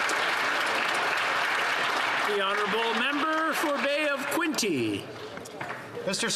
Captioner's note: applause